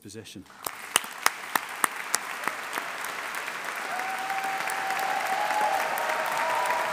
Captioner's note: audience applauding; audience cheering